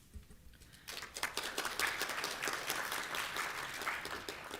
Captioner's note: applause